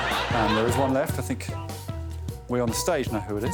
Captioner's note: audience laughs